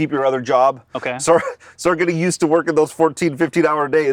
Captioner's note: chuckles